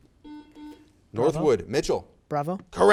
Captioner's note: buzzer